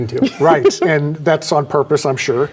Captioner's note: laughing